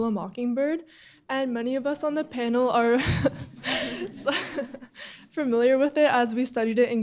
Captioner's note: laughs